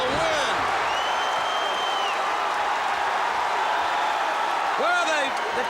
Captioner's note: applause